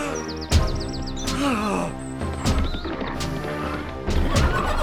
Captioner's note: música dramática; Jehu jadeando